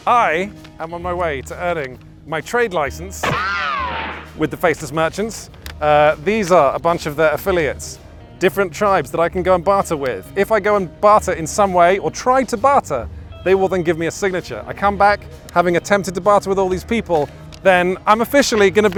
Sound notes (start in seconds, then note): 3.2 bullet ricochets